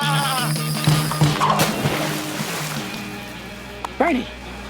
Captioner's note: water splashes